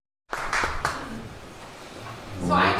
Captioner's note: clapping